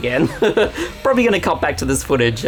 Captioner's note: laughing